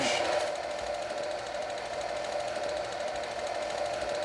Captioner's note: projector clicks